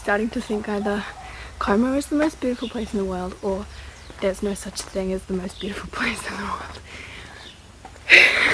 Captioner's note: massive asthmatic sigh